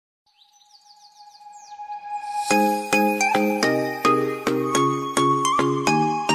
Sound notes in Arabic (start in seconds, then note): 1.1 لا يوجد صوت لحقوق الطبع والنشر